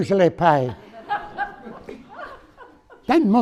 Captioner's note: audience laughing